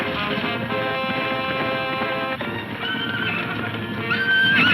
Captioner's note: horse neighing